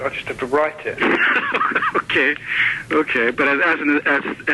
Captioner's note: laughing